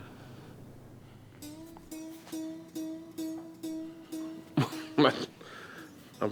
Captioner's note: laughs; guitar strumming